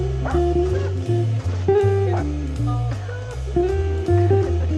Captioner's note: dog barking